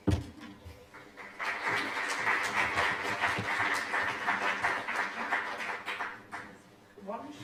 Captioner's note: applause